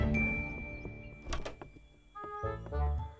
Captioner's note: Door opens